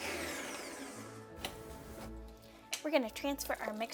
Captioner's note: blender whirring